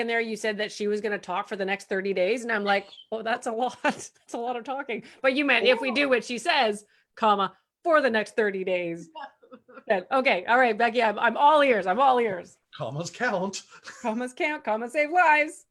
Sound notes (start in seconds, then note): 9.1 laughs